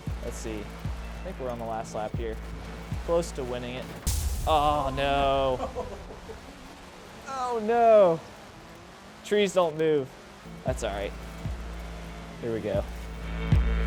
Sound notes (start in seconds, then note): 4.0 crash; 5.3 laughing; 13.6 upbeat music